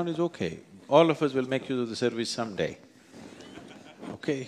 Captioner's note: few Laugh